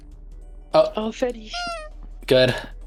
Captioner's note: Ｆｅｄｄｙ nose honk